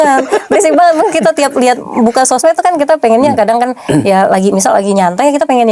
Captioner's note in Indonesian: tertawa